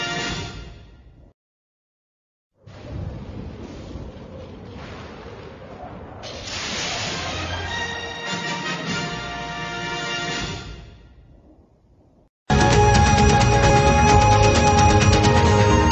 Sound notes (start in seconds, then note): 2.6 thunders rumbling; 6.2 lightning crashing down as rousing fanfare plays